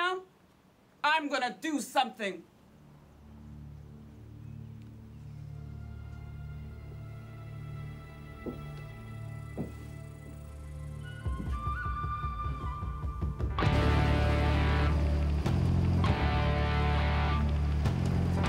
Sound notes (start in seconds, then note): 1.4 gentle music; 9.1 helicopter whirring; 9.1 rock music